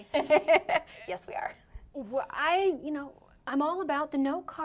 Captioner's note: laughs